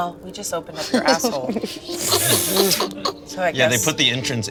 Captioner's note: all laughing